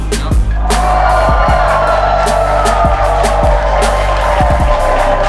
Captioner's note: spectators applauding